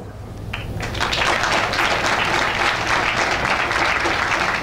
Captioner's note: audience applauding